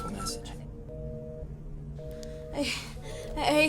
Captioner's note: tono de pitido